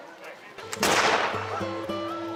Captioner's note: gun shot